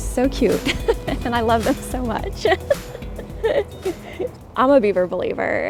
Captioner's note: laughs